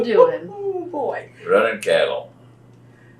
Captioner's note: laughs